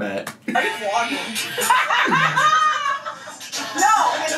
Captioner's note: laughing